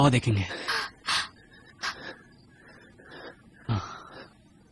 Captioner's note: breath shuddering